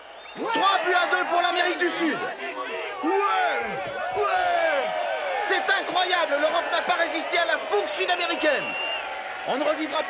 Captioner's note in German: beifall